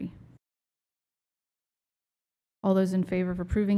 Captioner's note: silence